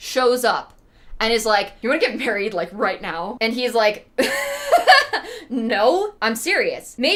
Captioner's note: laughs